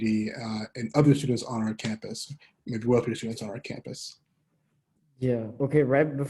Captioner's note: murmur